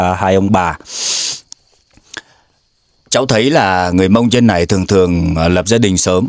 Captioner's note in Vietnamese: khịt mũi